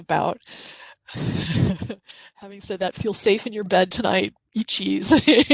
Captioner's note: chuckles